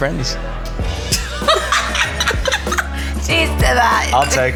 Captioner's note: laughs